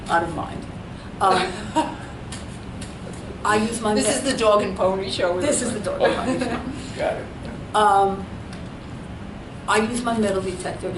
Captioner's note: all laugh